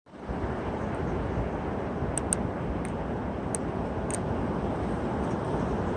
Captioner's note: wind Howling